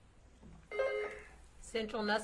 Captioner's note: buzzer beeps